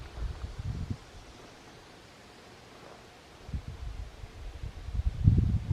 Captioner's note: wind blowing